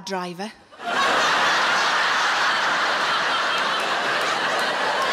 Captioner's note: audience laughing